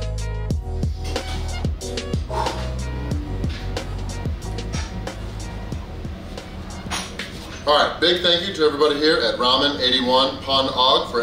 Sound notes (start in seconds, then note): 2.1 exhales deeply; 9.8 speakings in foreign language